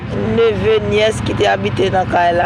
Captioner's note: in Creole